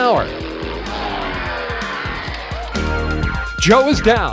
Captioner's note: engine roars